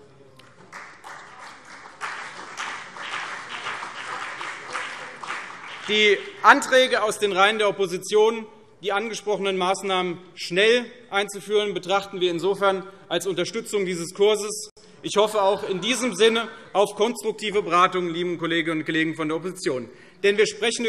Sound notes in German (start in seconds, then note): 0.4 Beifall CDU und BÜNDNIS 90/DIE GRÜNEN - Zurufe SPD; 14.5 Lachen SPD